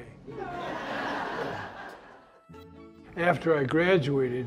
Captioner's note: laughter